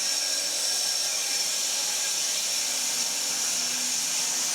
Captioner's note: saw whirring